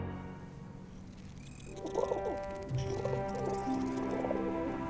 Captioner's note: cat purring